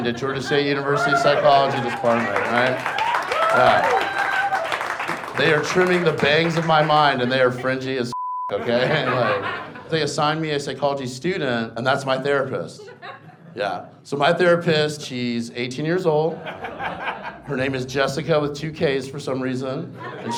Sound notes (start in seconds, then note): 3.1 audience applauding; 8.1 beep